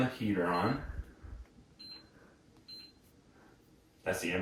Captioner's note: buttons beeping